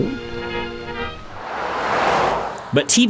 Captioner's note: car drives